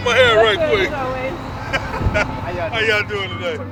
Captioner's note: laughs